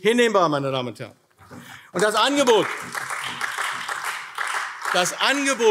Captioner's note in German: Beifall AfD